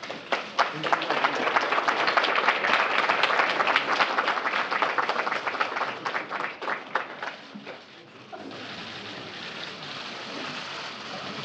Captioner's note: applause